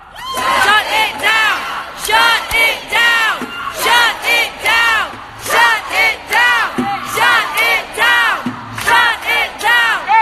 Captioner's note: chanting, "shut it down!"